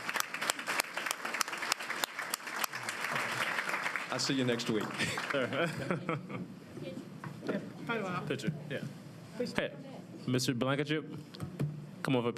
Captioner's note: applause